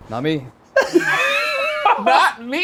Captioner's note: laughs